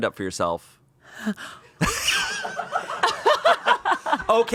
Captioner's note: everyone laughs